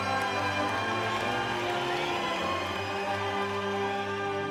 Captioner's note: distant crowd cheering